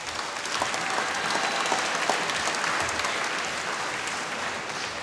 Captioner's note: applause